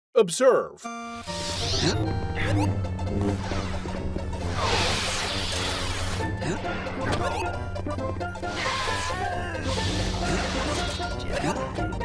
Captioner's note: stomping, then 1-UP sound effects from Super Mario World